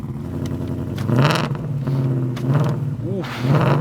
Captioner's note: engine revving